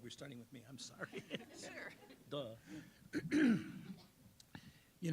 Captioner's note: laughing